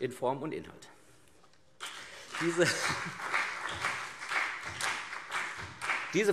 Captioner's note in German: Beifall CDU